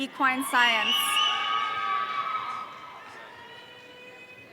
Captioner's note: audience cheering